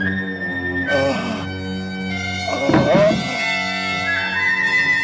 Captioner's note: ghoul groaning